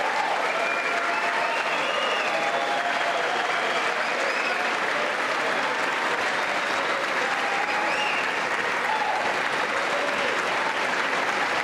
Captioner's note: applause